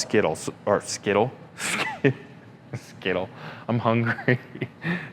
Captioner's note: laughs